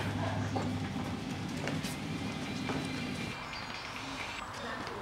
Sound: phone ringing

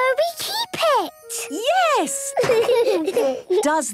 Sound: laughter

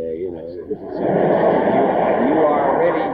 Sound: audience laughs

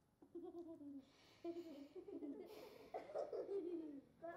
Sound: children laughing

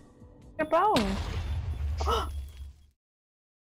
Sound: booom; gasps

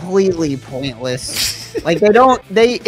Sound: laughs

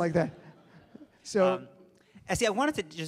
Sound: audience laughs

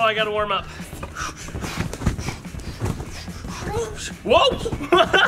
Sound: swooshing; laughing

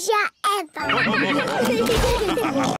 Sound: all laugh

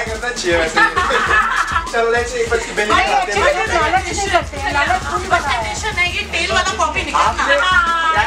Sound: excited customer noises

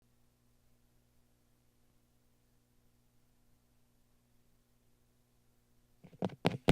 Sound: silence

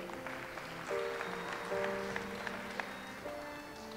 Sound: audience applauds

